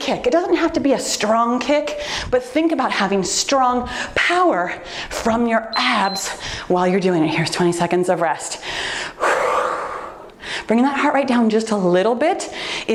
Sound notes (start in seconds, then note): 5.7 timer beeps; 8.6 exhales